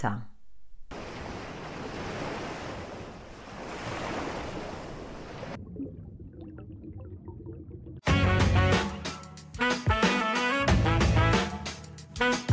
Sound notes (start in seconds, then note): 0.9 crashing surf; 8.0 theme song